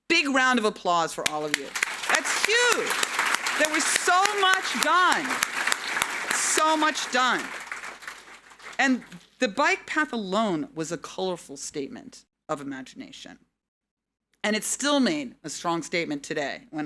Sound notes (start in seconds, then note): 2.3 audience applauding